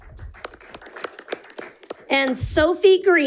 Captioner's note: audience applauding